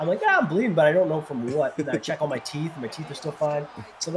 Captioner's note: laugh